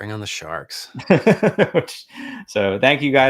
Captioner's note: laughs